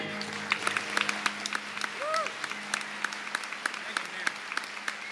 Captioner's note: applause